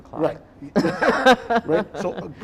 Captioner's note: laughing